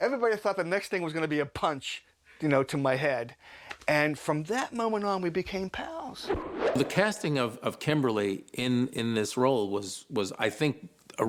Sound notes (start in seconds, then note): none